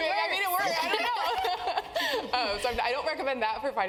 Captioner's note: laugh